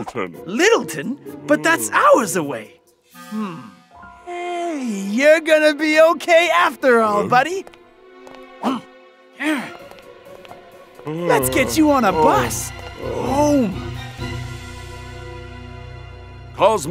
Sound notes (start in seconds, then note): 8.8 grunts angrily; 13.7 dramatic music